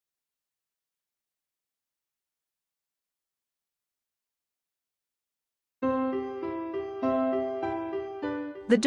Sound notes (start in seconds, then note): 0.0 silence